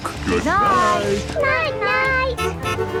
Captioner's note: honking